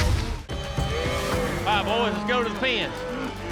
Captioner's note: cattle moo